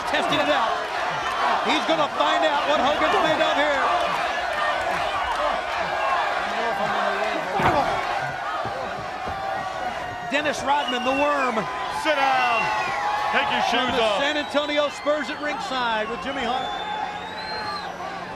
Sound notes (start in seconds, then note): 4.2 crowd chatter; 17.6 crowd chatter